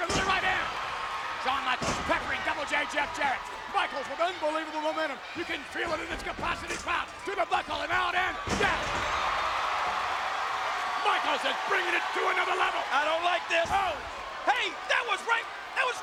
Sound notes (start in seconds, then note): 8.3 bodies thud; 9.7 audience cheering